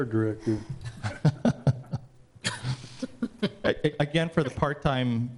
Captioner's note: man laughs